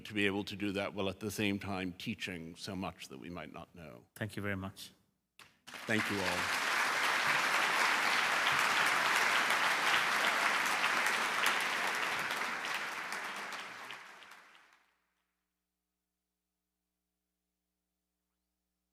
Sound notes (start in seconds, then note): 7.1 applause